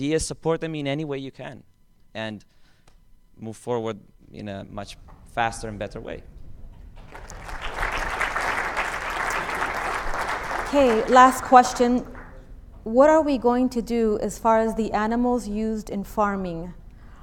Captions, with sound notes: Support them in any way you can. and move forward in a much faster and better way ***clap*** Last question What are we going to do as far as the animals used in farming.